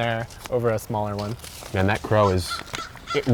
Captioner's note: crow cawing